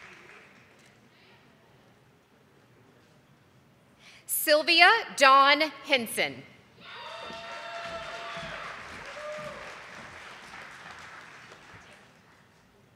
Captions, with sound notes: Sylvia Don Henson. (audience applauding)